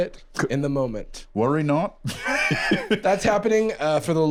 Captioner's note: laughs